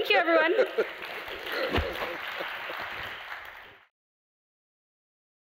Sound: applause

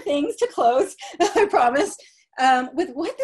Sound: laughter

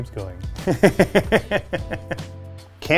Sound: laughs

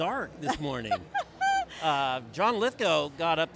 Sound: laughs

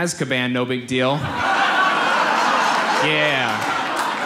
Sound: audience laughs

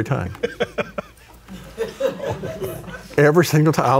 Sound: laughing

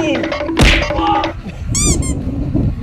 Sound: timer counting down; smacking; squeak

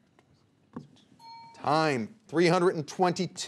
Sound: alarm clock ringing

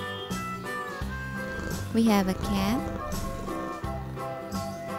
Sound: cat purring

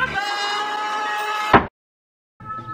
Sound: hammer knocking

